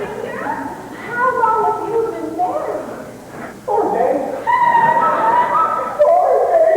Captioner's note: Gertie laughs